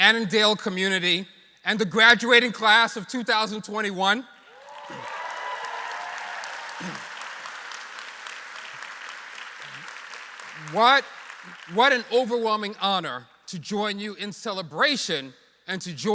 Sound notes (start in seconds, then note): 10.8 applause